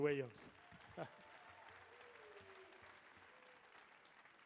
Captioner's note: audience applauding